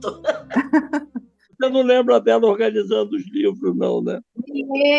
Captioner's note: laughter; speaks through the computer